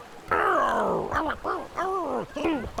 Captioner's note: grunting